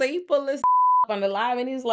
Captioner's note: beep